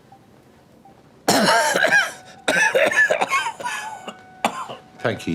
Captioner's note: he coughs